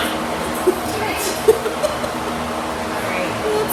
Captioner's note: laughter